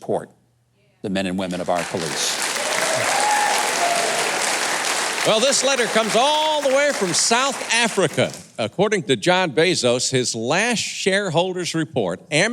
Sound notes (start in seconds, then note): 1.4 audience clapping